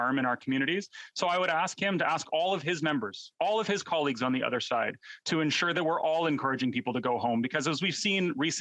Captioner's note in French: voix de l'interprète